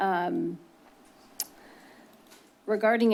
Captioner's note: clicks tongue